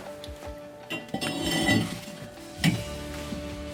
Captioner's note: pipe sliding